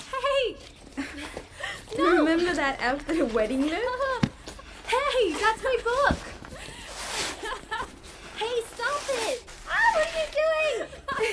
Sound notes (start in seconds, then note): 1.0 both chuckle; 6.0 book thuds; 7.1 woman laughing; 10.9 both laughing